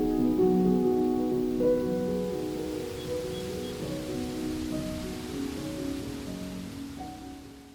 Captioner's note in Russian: звуки природы